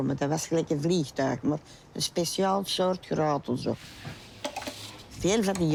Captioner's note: speaking foreign language